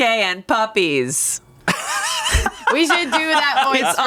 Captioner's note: laughs